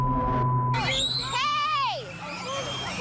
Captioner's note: children screaming